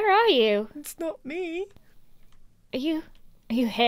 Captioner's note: high-pitch voice